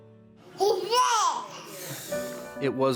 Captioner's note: baby vocalizing